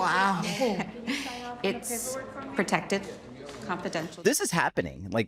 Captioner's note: chuckles